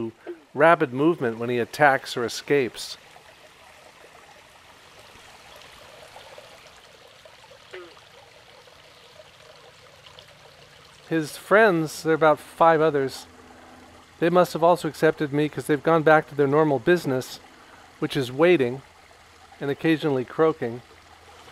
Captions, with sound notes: rapid movement when he attacks or escapes (water flowing quickly) His friends, there are about five others, they must have also accepted me, 'cause they’ve gone back to their normal business which is waiting and occasionally croaking.